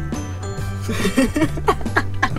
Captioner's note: laughing